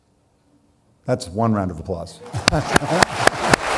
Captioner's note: audience clapping; laughs, claps